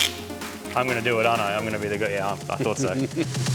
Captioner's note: giggles